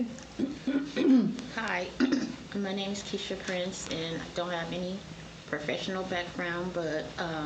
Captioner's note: clears throat